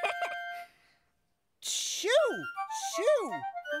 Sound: laughing

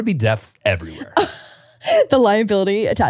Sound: laughs

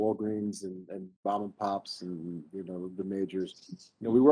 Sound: speaking faintly

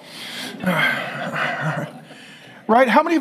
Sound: congregation laughing

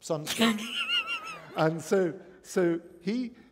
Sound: laughter

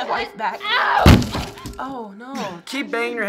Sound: head pounds wall

